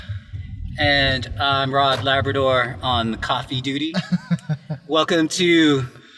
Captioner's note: laughter